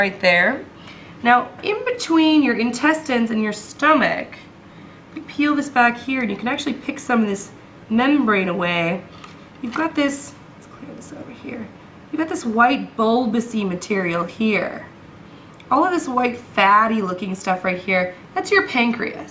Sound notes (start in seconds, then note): none